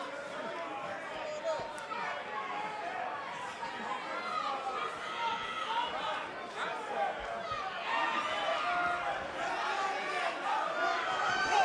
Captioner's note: crowd chatter